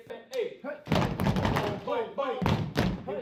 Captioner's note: stomping